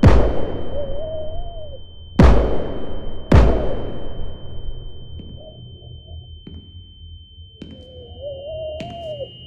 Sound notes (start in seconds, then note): 0.7 muffled screaming; 5.8 foot steps